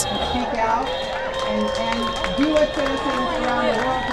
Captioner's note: cheering & applause